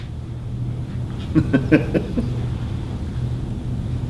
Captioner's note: laughing